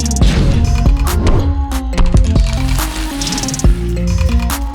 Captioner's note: cannon whooshing